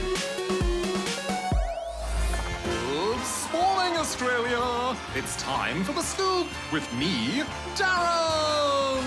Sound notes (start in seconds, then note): 2.6 applause